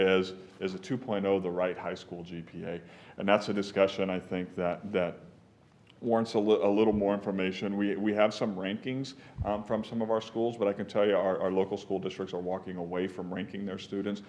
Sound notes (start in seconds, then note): none